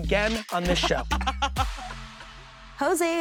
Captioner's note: laughing